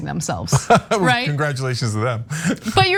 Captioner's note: laugh